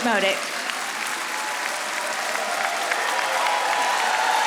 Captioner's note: audience applauding